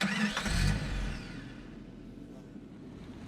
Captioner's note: vehicle starts